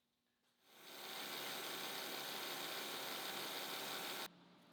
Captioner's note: machine whirring